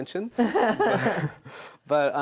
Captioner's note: laughs